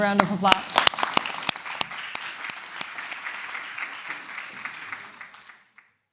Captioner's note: applause